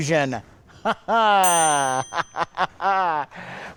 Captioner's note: laughs; bell dings